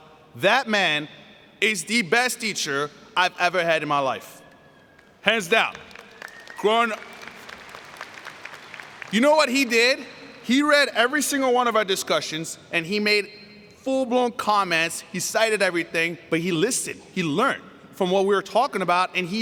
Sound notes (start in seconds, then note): 5.4 applause